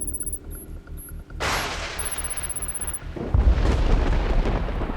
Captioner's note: thunder crashing